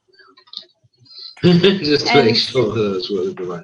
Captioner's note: laughs